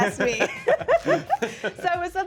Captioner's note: laughs